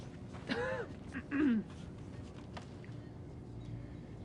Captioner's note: coughs